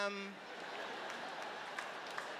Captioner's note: laughter